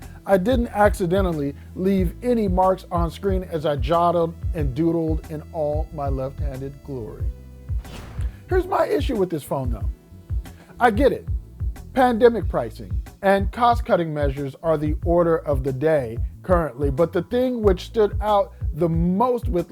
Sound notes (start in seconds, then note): 7.7 air whooshing